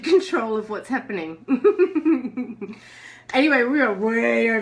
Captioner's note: laughs